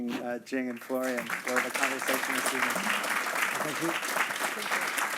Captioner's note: applause